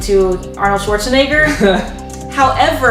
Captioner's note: laughter